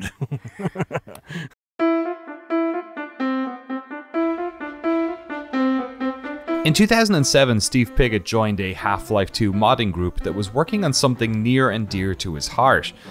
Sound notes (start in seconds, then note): 0.0 laughing; 6.6 speaking normally